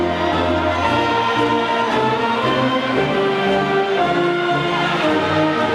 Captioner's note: audience faintly shouting